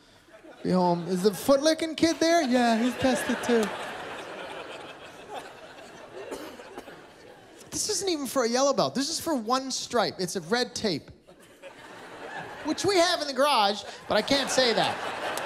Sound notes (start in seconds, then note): 4.8 laughter; 11.3 laughter